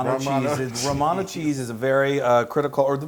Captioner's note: laugh